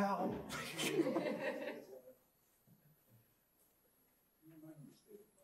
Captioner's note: laughter